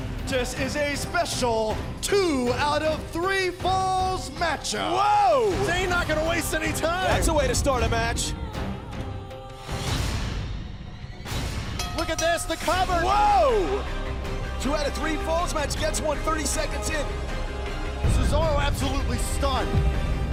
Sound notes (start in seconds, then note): 9.8 bell ringing